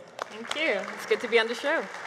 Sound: applause

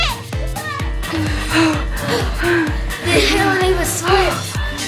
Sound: sighing

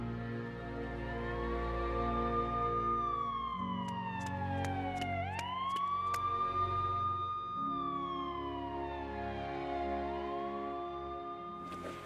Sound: echoey police sirens

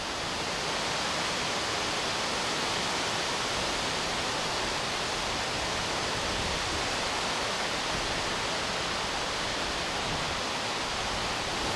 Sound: wind

